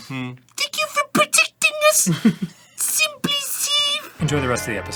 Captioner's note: high pitched voice